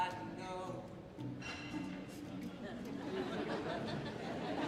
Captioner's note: audience laughing